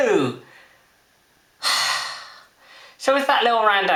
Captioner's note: sigh